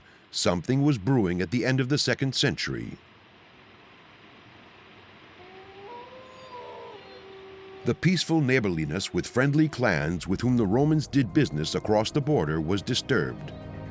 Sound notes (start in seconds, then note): 5.3 wolf howls